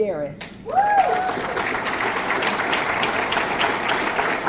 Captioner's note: audience clapping